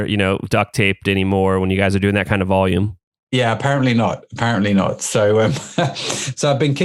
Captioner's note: laughs